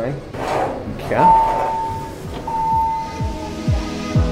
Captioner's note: elevator door opens; elevator Dings